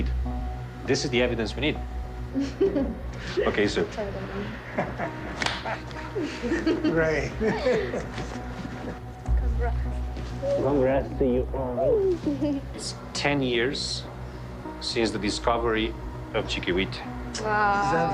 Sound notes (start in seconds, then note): 2.3 woman laughs; 4.7 man laughs